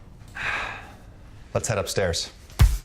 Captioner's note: sighs